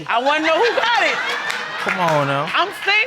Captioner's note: audience laughing